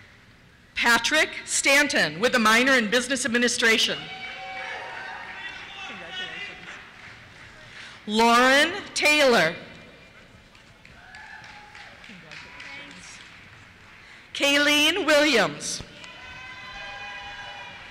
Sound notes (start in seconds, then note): 4.0 cheers; 10.9 cheers; 12.9 voiceover; 15.9 cheers